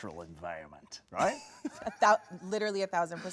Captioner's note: laughs